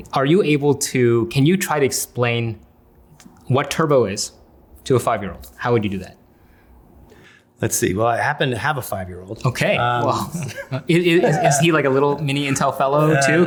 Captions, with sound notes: Are you able to, can you try to explain what turbo is to a five-year-old? How would you do that? - Let's see, well, I happen to have a five-year-old. - Okay, well. (chuckles) Is he like a little mini Intel Fellow too?